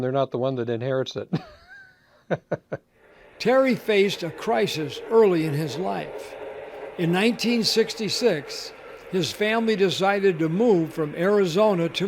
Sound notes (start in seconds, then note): 3.1 laughs; 4.0 voiceover